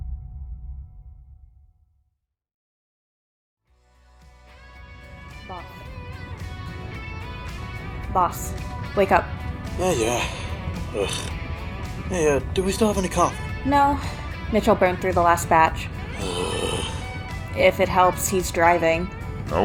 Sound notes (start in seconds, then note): 9.7 groan; 16.0 frustrated groan